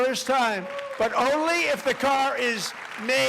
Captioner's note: applause